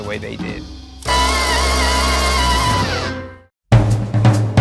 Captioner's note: a siren-like scream; upbeat music